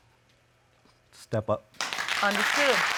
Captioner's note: audience applauding